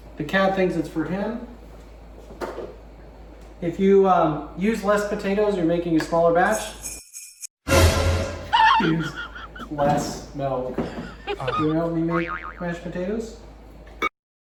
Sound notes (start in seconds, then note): 10.8 laughing background; 11.3 boing